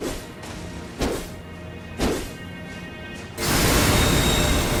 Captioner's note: sword whooshing